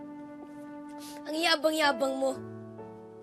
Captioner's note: sniffling